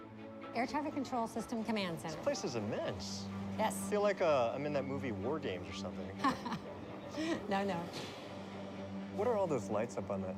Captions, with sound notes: AIR TRAFFIC CONTROL SYSTEM COMMAND CENTER. THIS PLACE IS IMMENSE. YES. I FEEL LIKE I'M IN THAT MOVIE "WAR GAMES" OR SOMETHING. [ LAUGHS ] NO. NO. WHAT ARE ALL THOSE LIGHTS UP ON THAT SCREEN RIGHT THERE?